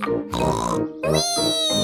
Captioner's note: snorts